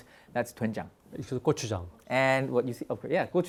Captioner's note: speaking in Korean